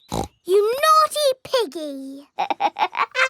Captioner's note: snorts; laughs